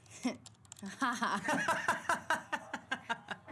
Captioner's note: both laugh